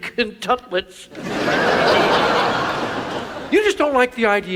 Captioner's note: audience laughs